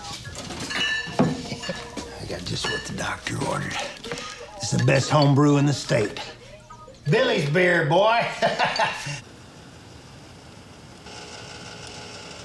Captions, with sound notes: I got just what the doctor ordered. This is the best home brew in the state. Billy's Beer, boy. (laughs)